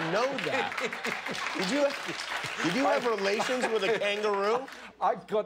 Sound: laughter

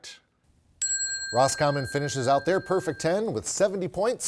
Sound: bell chimes

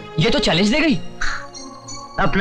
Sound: sighs

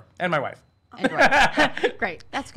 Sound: laughing

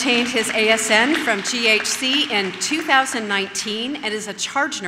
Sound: audience claps

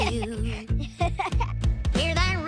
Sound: Bucky giggling

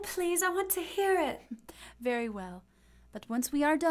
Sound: chuckles

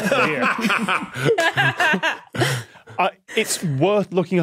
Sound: guests laughing

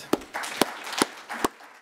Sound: applause

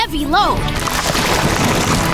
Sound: rocks crumbling

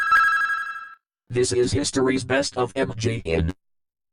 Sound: in a computer-generated voice

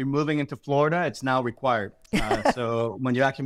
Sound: laughs

